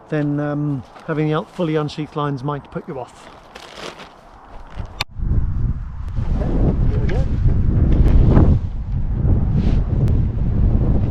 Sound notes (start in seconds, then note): 7.7 wind whooshing